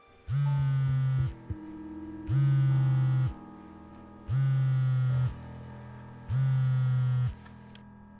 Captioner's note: phone Vibration